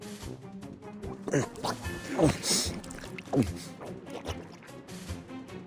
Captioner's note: swallowing